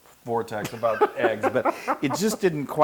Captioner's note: laugh